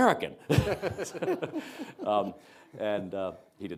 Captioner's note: presenters chuckling